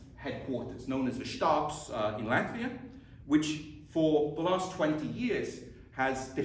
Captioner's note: latvian